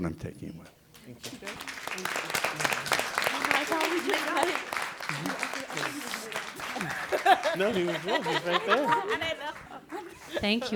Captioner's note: applause and chatter